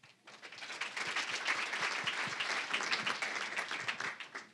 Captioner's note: applause